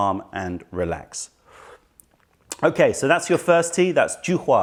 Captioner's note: sips tisane